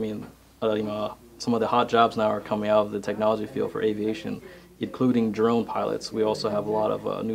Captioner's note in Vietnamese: drone